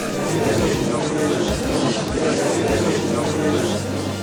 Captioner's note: gallery chattering